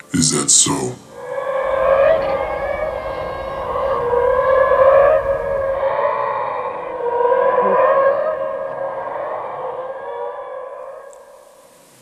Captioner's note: beings vocalizing